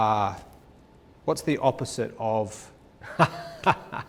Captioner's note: laughs